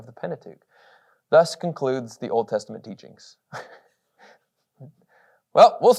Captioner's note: chuckles